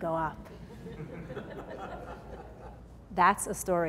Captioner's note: laughing